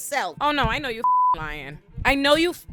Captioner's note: beep